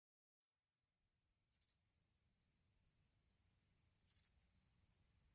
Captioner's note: crickets chirping